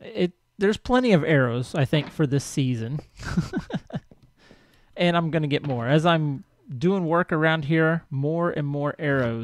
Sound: laughs

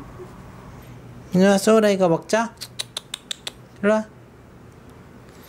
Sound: clicks tongue

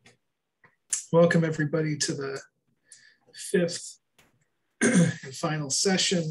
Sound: clears throat

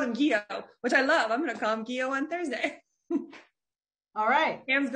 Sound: laughs

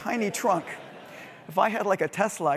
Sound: laugh

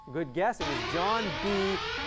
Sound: sirens

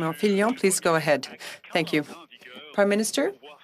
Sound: speaking French

